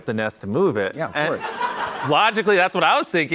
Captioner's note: laughter